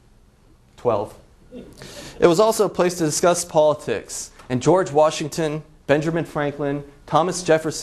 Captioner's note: laughs